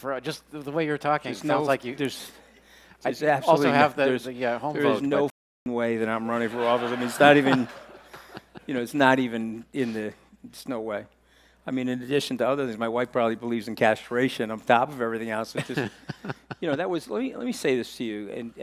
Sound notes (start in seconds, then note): 6.3 audience laughing